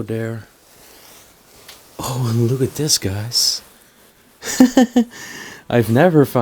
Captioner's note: chuckling